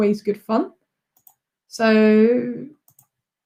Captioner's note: mouse clicks